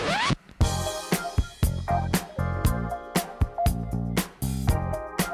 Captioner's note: record scratches; funky music